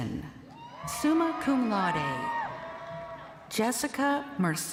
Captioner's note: crowd cheering